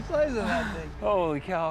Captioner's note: laughing